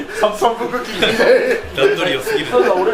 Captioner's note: laughs